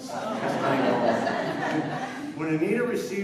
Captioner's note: laughter